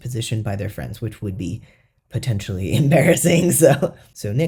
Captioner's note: laugh